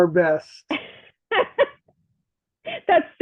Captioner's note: laughs